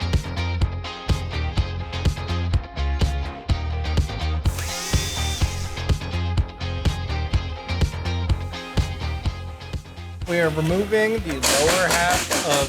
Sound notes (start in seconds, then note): 4.4 upbeat music; 4.4 tool buzzing